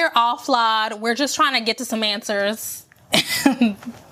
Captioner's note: laugh